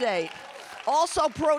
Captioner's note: audience applauding and cheering